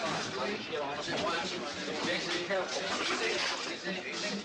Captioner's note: people chattering